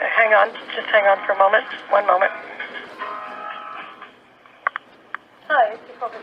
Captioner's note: A phone buzzes and rings in the background